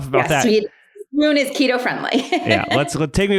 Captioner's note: laughs